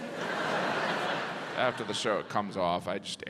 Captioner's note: audience laughs